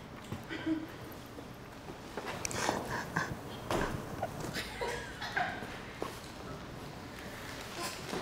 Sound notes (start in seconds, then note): 2.6 chuckling; 2.6 filming crew laughing